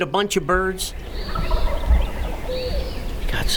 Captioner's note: distant turkey gobbling